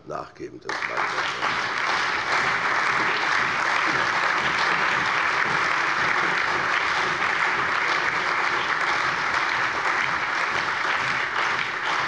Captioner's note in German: Allgemeiner Beifall